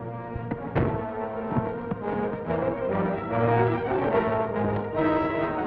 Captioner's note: car door smacks the Ranger